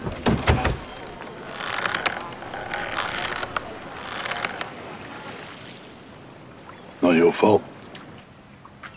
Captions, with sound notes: [Rope creaks] Not your fault.